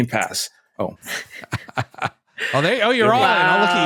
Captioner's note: laughs